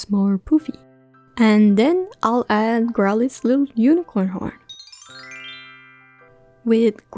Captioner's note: magical sounds